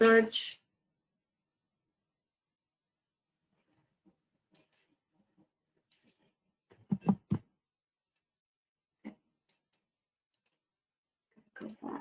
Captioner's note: 10 seconds pause